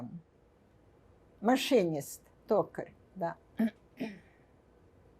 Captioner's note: clears throat